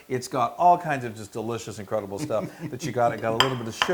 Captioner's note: laugh